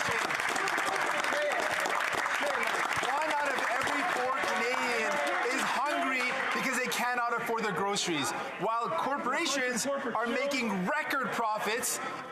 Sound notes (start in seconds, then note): 7.2 some Applause